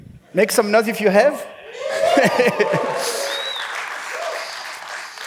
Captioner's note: cheering; applause; laughs